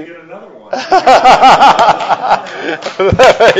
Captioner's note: everyone laughs; everyone applauds